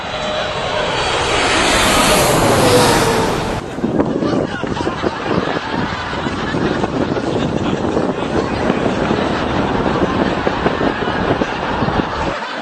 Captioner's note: laughter